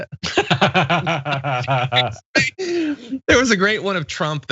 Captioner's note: laugh